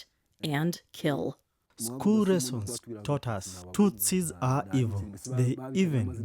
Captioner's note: through translator